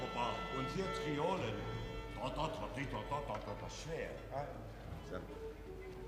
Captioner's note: instructing in foreign language